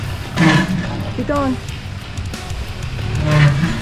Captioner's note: engine revving